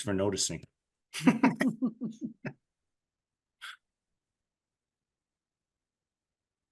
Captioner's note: both laughing